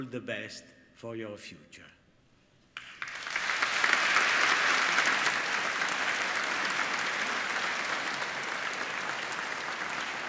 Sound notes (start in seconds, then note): 2.8 applauding